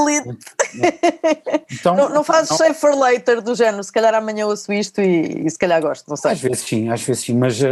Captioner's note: laughs